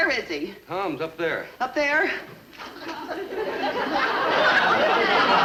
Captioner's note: audience laughing